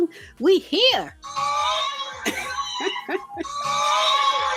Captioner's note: women cheering